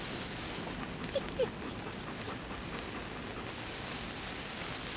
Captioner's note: dog whimpering